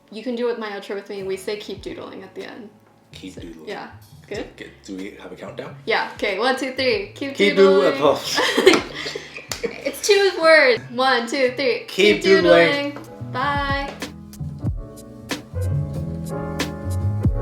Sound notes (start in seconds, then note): 8.2 both laughing; 14.5 relaxing music